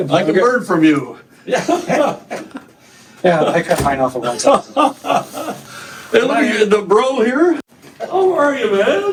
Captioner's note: both laugh